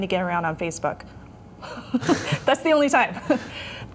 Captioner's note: laughter